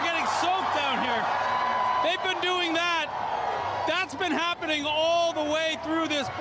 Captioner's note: cheers